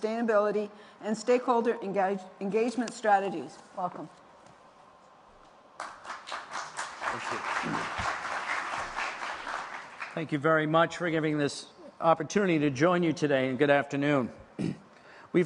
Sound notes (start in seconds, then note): 5.7 applause